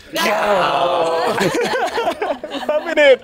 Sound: laughter

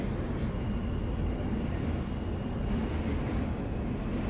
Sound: subway rumbling

